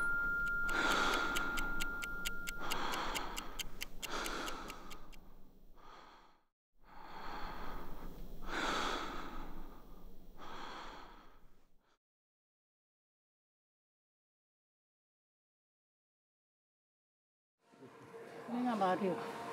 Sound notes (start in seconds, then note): 2.5 heavy breathing; 10.7 heavy breathing fades